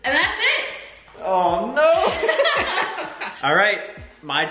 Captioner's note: laughs